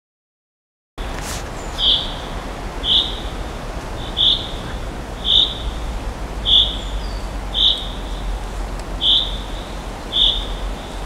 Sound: sound of forest

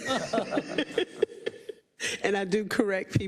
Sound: laugh

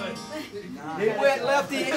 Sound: laughing

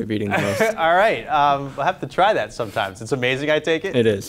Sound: chuckles

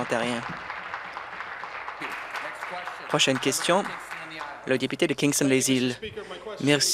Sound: applause

